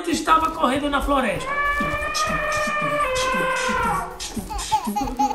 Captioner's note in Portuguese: Cantarolando; Som de elefante